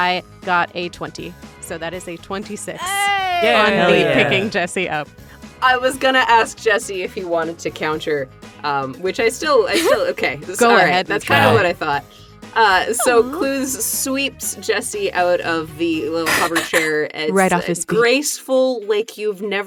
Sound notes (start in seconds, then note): 2.8 cheer